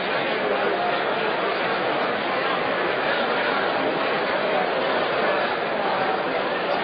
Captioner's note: crowd noise